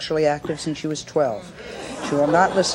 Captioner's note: audience murmuring